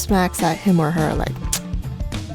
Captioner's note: lip-smacking